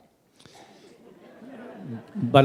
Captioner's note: laughter